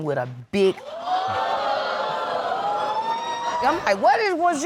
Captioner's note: audience gasps